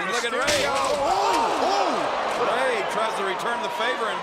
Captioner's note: lexan banging